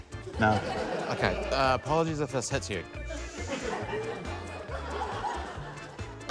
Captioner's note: laughter